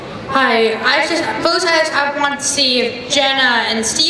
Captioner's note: voiceover